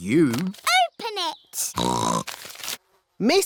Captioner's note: snorts